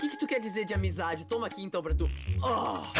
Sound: fart sound

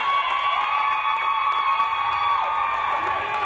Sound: crowd cheering

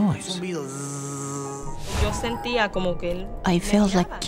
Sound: makes buzzing sound

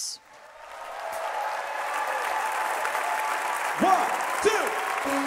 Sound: audience applauding

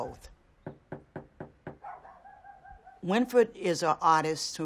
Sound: door knocking

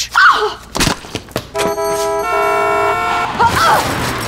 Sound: horn blowing; girl groaning

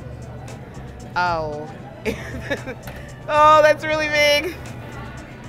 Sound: laughs

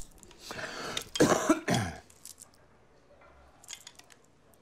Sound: coughing

